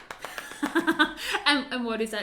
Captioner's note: tapping; laughs